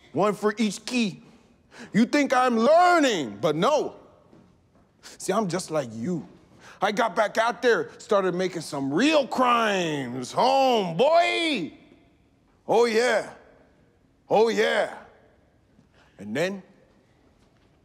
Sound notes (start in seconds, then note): none